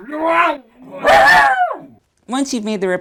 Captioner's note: barking